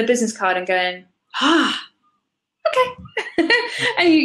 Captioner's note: laughs